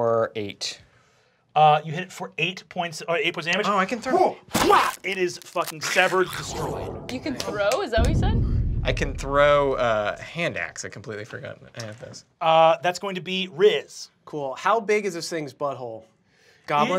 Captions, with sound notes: - You hit it for 8 points of damage, (cracking) it is fucking severed, destroyed. - You can throw, is that what you said? - I can throw a hand axe I completely forgot to add this. - That's going to be Riz. - Cool, how big is this thing's butt hole, goblin sized?